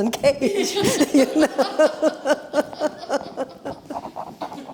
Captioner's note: laughter